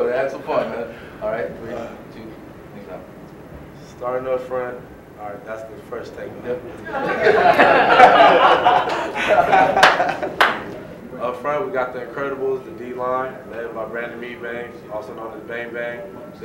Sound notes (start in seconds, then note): 6.8 laughter